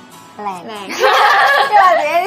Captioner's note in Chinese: 大笑